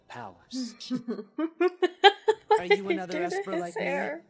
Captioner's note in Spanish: Progresión de risas